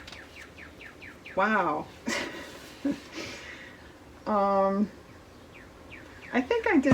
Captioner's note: laughs